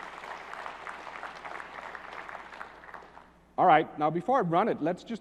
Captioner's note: applause